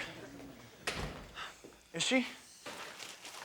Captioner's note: door shuts